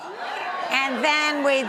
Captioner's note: audience cheers